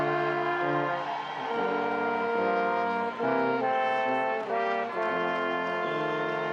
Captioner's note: audience applauding and cheering continues